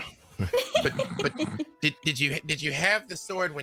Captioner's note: people laughing